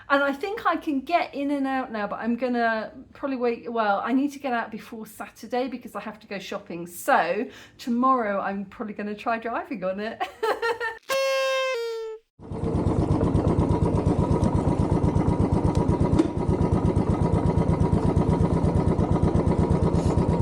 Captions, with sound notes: And I think I can get in and out now, but I'm going to probably wait. Well, I need to get out before Saturday because I have to go shopping. So, tomorrow I'm probably going to try driving on it. [laughing] [party blower] [bike engine]